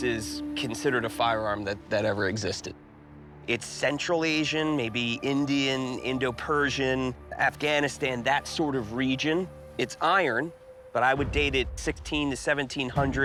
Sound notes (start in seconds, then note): none